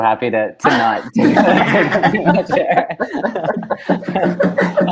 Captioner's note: they laugh